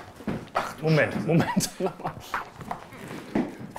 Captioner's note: laughs